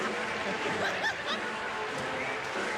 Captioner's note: laughter